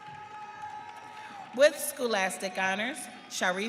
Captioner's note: audience cheering